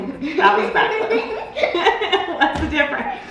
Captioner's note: both laughs